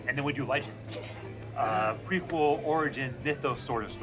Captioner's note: laughs